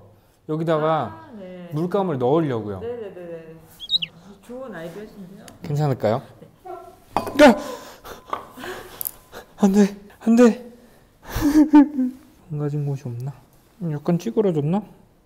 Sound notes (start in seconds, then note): 11.3 sobbing